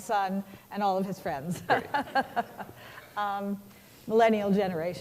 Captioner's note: laughter